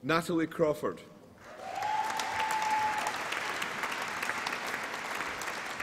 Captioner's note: applause and cheering